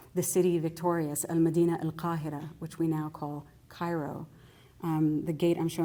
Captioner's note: non-english